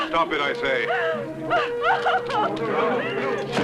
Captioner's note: crying